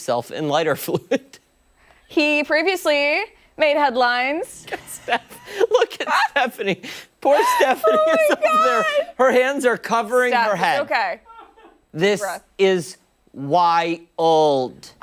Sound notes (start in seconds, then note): 4.6 laughter; 9.2 laughter